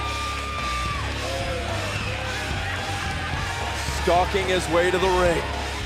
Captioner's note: crowd cheering